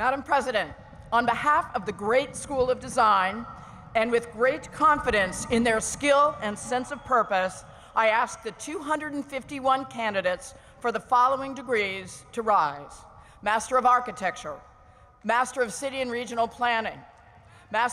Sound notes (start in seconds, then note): none